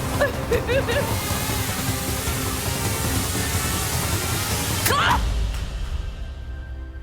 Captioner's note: drone rotors whining; tense music